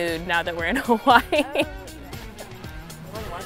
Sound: chuckles

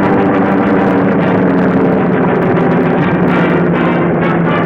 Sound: plane roaring

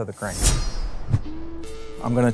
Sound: sword slicing

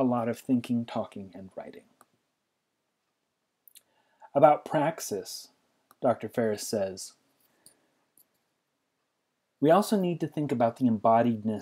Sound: pause

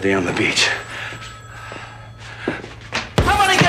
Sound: ringing continues

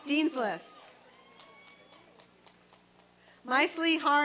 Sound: applause and cheering

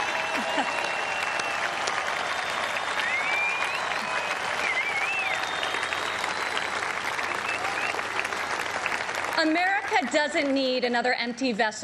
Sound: cheers and applause

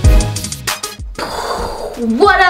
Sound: imitates explosion

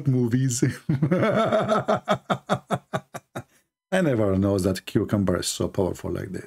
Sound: Ketawa

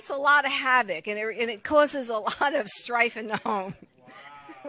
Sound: chuckles

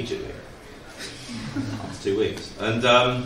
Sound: laughs

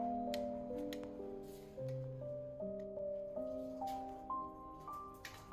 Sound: cane tapping the ground

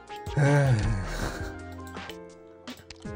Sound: sigh

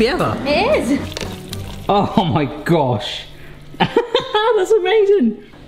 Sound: laughing excitedly

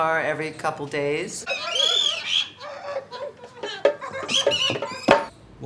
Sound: sound effects - whistles

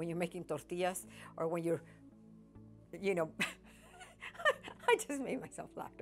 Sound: laughs

